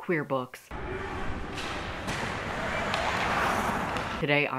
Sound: skates clashing

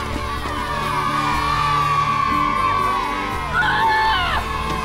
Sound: crowd cheers

